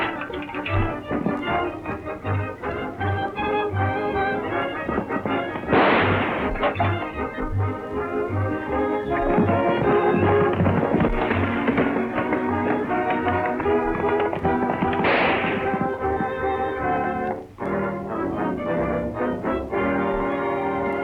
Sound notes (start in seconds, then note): 0.0 can clatters; 4.9 gun fires; 6.7 can clatters; 14.6 gun fires; 18.3 tense music